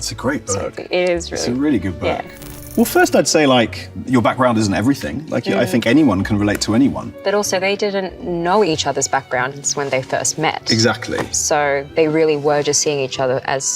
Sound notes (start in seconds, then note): 2.5 film reel clicks